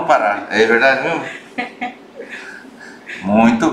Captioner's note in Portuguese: risos